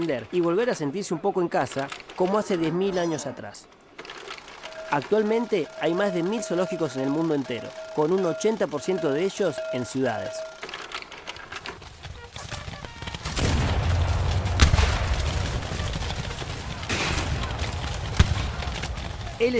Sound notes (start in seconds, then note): 13.7 guns and bullets